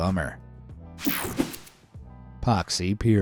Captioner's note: graphics whooshing